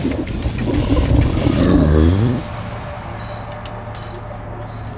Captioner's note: rumbling, burps